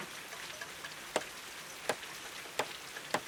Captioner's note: hammer thumping